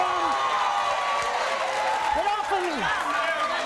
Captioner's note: audience cheers